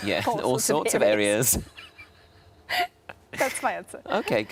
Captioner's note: Sarah laughs